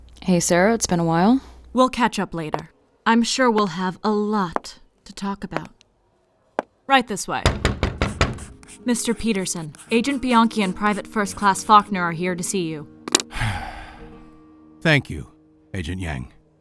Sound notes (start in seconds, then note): 7.4 knock on the door; 13.2 Peterson sighs